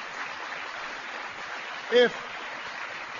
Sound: applause

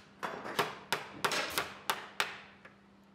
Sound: hammering

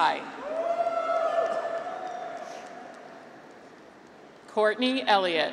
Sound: graduates cheer

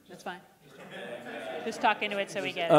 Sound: laughing

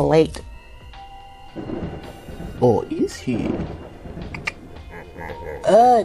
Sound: 'Jack' slowly turns to stare at the viewer. Spooky sound cue is heard; Clicks tongue, a signature Marcel sound; deep laughter is heard somewhere offscreen

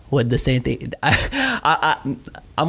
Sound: laughs

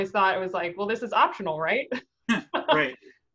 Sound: chuckles

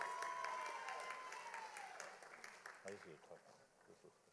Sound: audience applauding

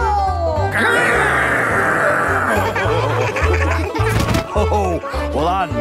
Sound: laughing

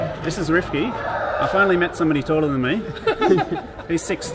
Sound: laughing

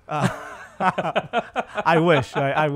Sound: laugh

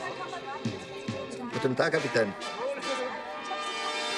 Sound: in German

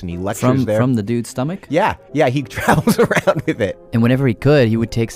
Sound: laughs

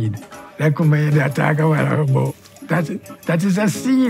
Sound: speaks in foreign language

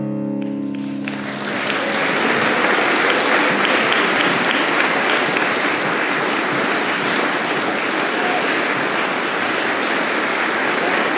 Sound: applause

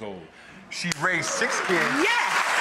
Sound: audience applause

